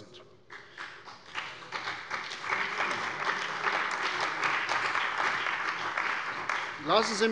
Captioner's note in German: Beifall bei der CDU und dem BÜNDNIS 90/DIE GRÜNEN